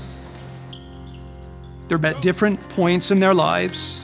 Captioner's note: sneakers squeaking